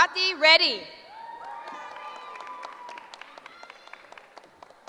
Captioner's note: cheering